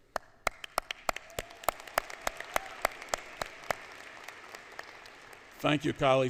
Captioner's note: applause